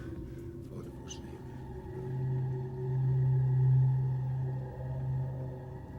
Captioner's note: mumbles in foreign language